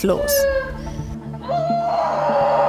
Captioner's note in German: Lautes Schreien